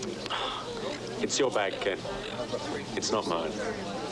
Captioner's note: sighing